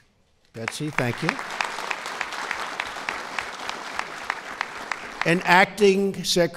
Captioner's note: applause